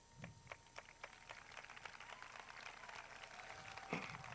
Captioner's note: crowd claps